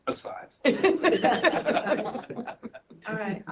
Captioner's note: laughter